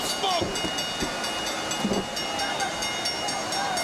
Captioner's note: bell dinging